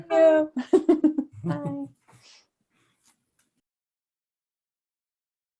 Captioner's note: laughing